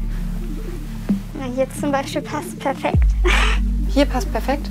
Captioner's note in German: lacht